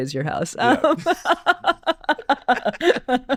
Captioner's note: laughing